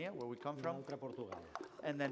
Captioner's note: non-english speech